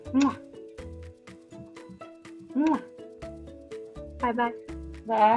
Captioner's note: lips smacking